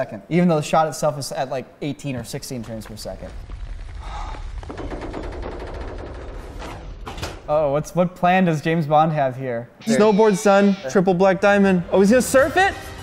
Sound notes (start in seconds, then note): 4.7 creaking; 7.0 latch opens